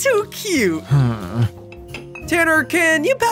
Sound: Tanner grumbles

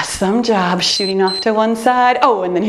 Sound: timer beeps

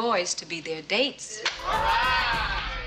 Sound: students cheering

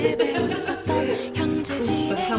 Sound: both laugh

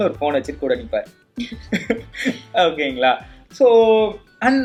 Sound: laughs

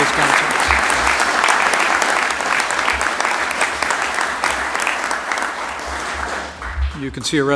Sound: applause

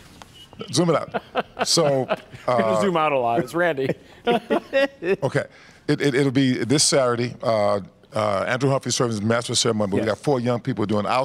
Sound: laughter

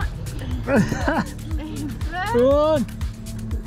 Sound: laughs

